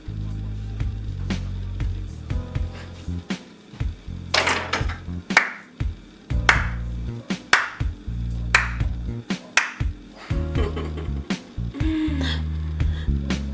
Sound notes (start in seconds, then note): 6.4 mom applauds; 10.5 mom laughs